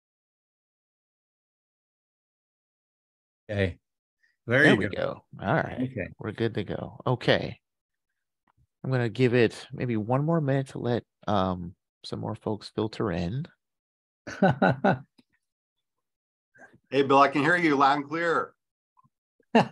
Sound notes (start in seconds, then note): 14.3 laughs; 19.4 laughs